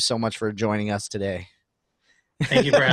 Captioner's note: laughing